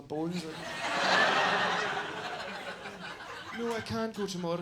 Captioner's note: audience laughs